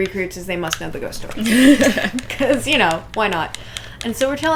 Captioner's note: laughter